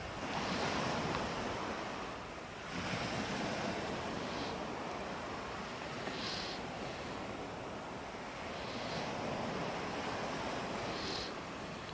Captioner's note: breathing